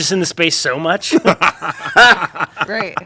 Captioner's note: laughter